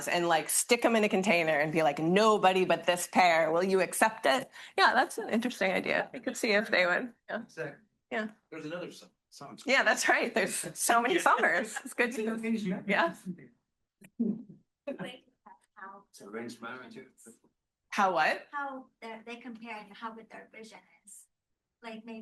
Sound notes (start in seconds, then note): 12.9 student faintly speaking; 14.8 student speaking faintly